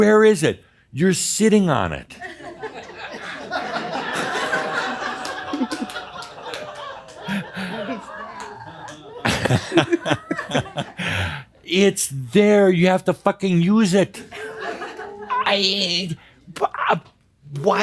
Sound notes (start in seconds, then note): 2.1 laughter as she looks at her chair